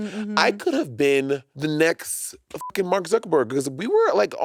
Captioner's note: beep